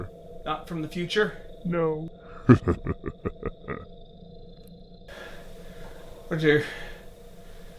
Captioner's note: laugh